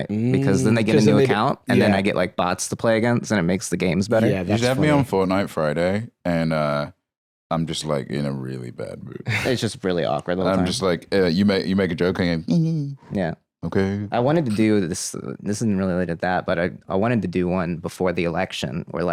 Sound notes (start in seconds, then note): 12.5 mocking